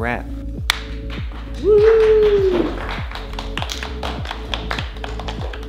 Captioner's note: applause